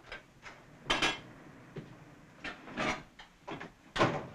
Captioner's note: dish clanks